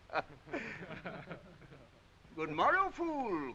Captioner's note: men chucking